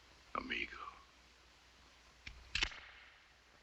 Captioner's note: cocks gun